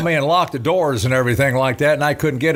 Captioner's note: none